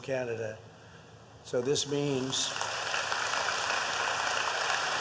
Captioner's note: applause